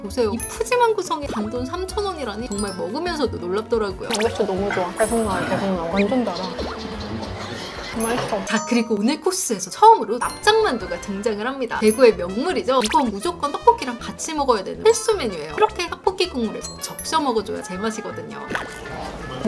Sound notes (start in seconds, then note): 6.5 nom nom